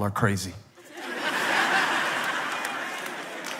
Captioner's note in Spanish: Risas